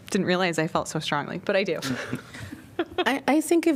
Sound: laughter

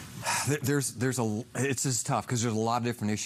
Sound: sighs

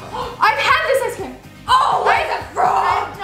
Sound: sniffs; yells

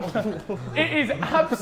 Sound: Sidemen laughing

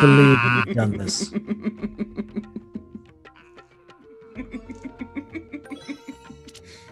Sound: laugh

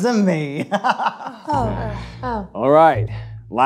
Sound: class sighs

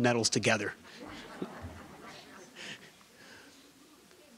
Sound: audience laughing

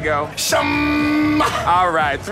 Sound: cheering

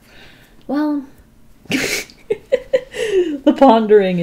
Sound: laughs

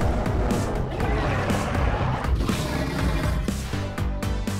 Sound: roars

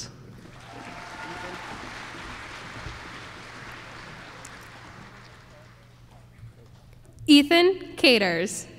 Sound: applause

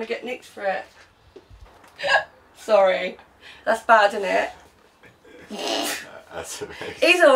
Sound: laughing

